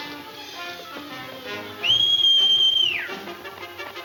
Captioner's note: Jim whistling; thrilling music